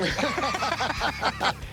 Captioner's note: laughter